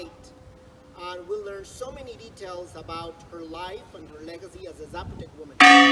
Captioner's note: church bell rings